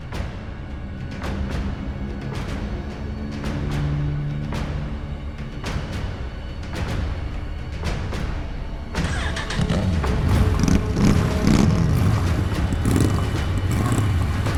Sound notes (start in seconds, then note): 0.1 slow music continues; 9.0 motorcycle engine revs